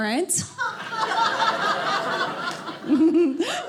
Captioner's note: audience laughing